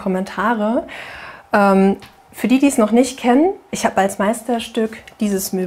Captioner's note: none